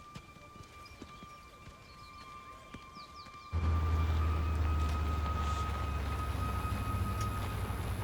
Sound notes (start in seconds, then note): 3.5 Humvee rumbling